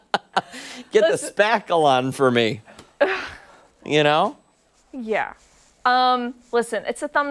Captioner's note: laughter